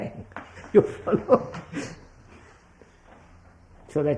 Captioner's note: laughs